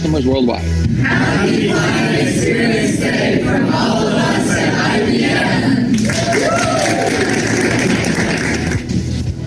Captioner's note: cheers